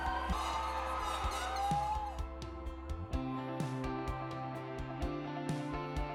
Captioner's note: cheers and applause